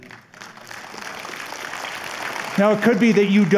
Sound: applause

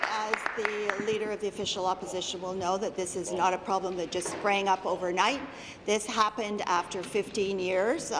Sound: applause

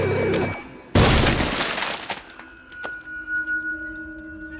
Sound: body explodes

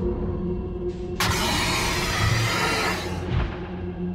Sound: roar

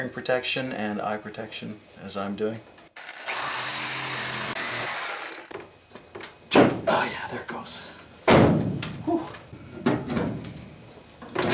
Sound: sawing; pops; bangs

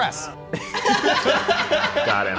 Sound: laughing

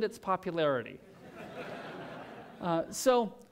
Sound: laughter

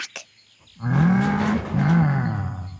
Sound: roaring

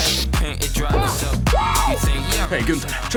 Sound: whooping

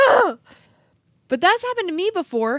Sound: groans

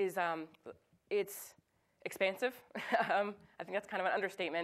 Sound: chuckles

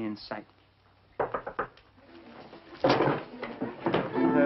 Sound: knocking

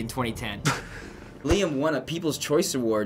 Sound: chortles

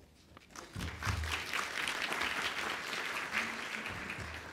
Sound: applause

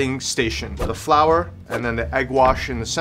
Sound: air whooshing

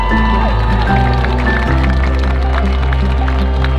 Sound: crowds and teams cheering

